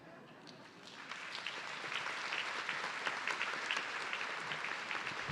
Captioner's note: everyone clapping